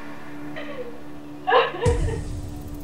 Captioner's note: sobbing